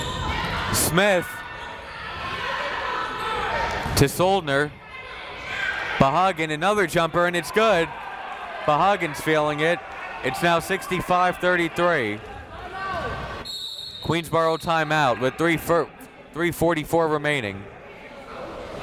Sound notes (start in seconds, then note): 13.4 whistle tweeting; 18.5 crowd members talking